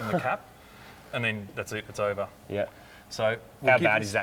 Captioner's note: laughs